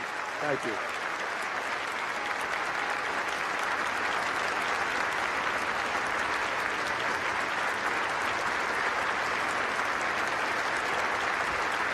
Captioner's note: applause